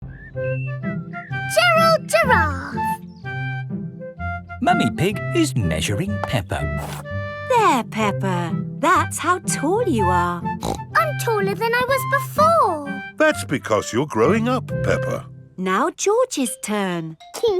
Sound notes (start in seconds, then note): 10.5 snorts